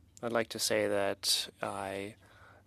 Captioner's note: speaking French